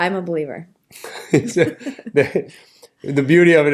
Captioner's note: laughter